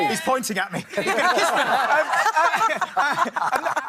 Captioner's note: laughing